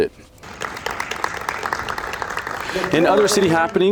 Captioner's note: audience applauds